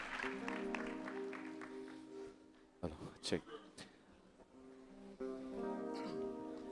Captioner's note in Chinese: 掌聲與音樂